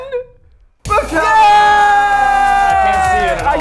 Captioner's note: all exclaim happily